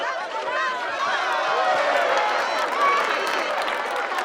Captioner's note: cheering